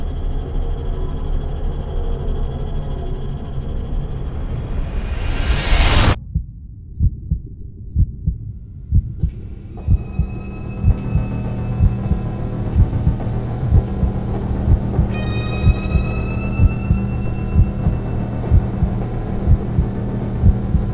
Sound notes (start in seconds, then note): 6.1 heartbeat thrums; 10.8 suspenseful music; 17.2 footsteps echo